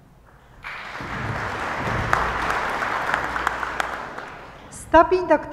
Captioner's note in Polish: oklaski